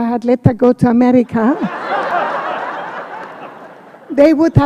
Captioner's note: laughter